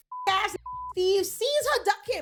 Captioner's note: beep